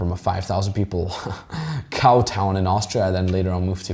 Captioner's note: chuckles